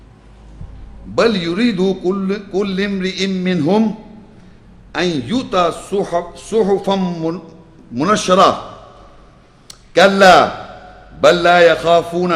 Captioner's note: Arabic